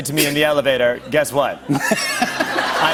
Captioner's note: laughter